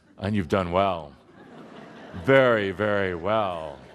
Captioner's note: laughter